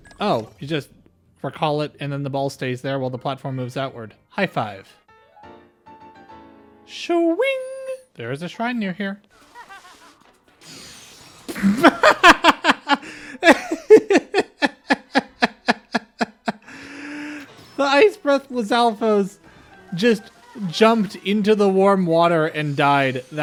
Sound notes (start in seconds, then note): 11.5 laughter